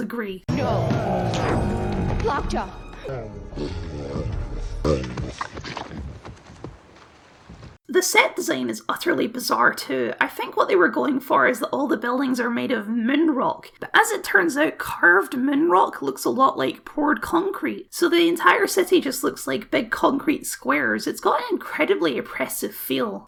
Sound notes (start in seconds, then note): 2.0 passing out noises; 4.6 passing out noises